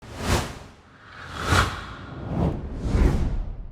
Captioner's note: text whooshing